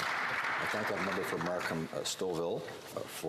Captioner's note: some Applause